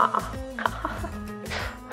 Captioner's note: giggles